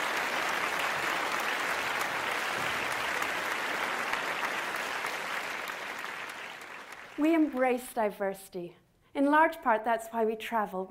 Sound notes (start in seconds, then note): 4.6 applause